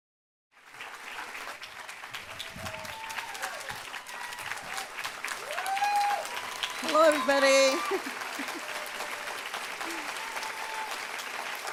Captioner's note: applause